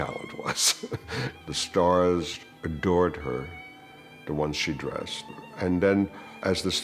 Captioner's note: laughs